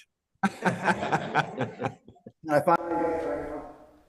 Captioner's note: laugh